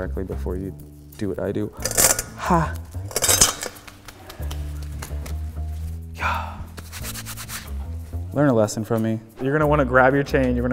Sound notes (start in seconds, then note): 1.8 chain clatters; 2.7 gloves flaps; 6.7 gloves rasping